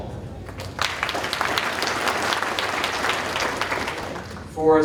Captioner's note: audience applauding